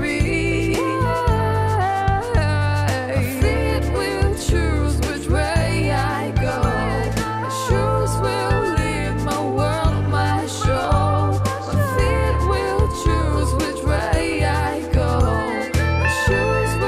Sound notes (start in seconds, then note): none